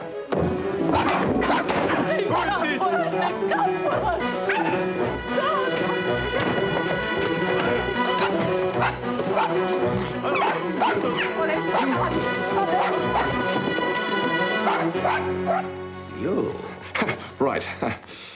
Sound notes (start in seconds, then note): 1.1 both yell in pormanian; 7.6 yaps